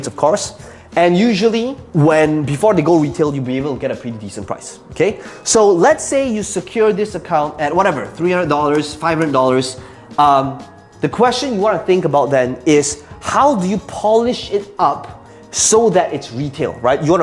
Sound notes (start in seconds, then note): 8.2 tapping marker